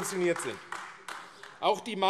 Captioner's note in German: Beifall AfD